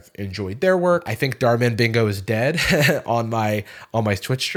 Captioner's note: chuckles